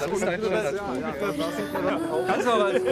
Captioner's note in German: Stimmengewirr